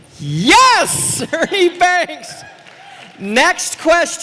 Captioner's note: applause